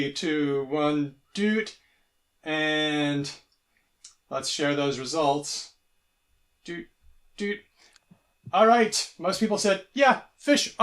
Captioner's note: beeps